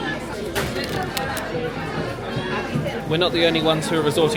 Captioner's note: wrapper crinkles